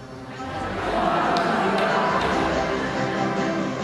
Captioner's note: laughing; upbeat stringed music instrumental